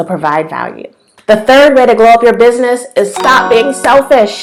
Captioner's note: bell sound